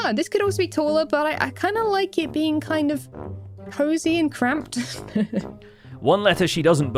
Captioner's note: chuckles